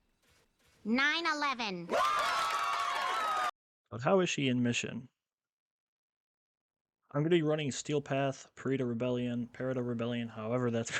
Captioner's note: cheering